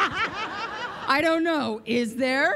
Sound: laughter

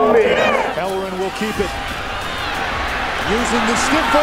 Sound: voiceover

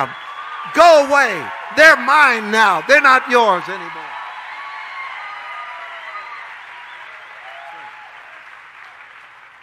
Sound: audience cheering

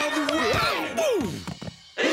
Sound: Duckman grunts; gasping

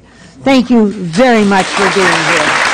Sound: applause

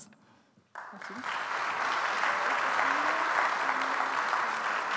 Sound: audience applauds

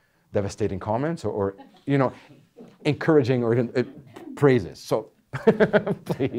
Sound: laughing

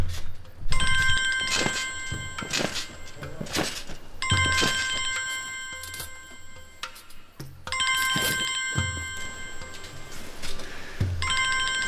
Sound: mobile phone rings

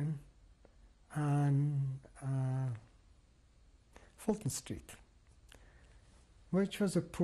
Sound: pauses for 3 seconds

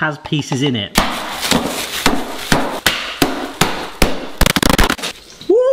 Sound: ice crashes; hammer thumps

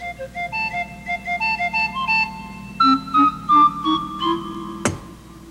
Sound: thump, thump, thump

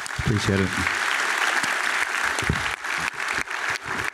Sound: applause

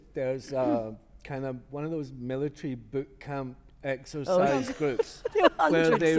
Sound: laughter

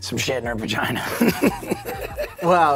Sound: laughing

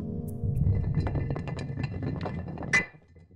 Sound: rock rolling

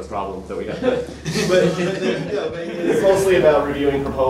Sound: laughter

